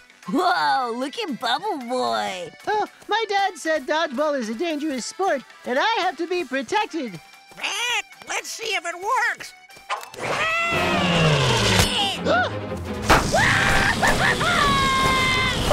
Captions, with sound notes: Whoa. Look at bubble boy. Well, my dad said Dodgeball is a dangerous sport and I have to be protected. [squawking] Let's see if it works. [gasping] [screaming]